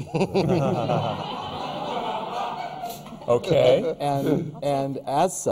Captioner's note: laughter